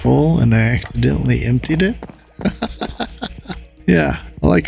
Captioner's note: laughs